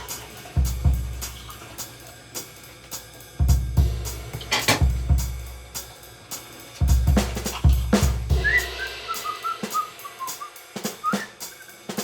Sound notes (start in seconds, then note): 8.4 William whistles